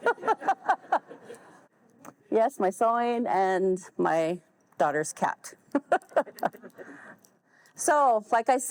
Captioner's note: all laugh; laughs